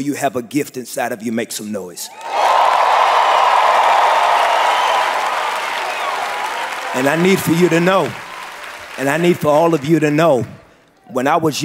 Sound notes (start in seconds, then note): 2.8 cheering and applause